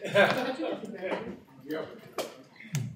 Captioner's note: laughs